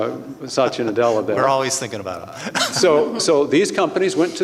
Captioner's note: laughs